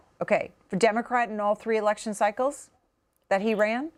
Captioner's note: none